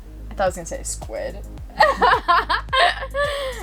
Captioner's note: laughs